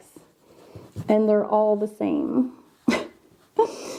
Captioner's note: chuckles